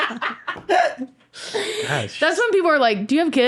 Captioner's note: laughing